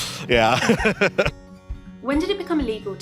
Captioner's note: laughter